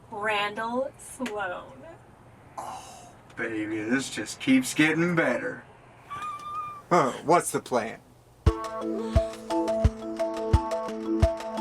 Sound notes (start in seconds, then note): 6.1 Farrah squeals; 8.5 brooding music